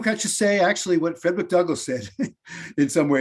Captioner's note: chuckles